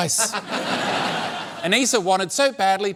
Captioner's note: laughter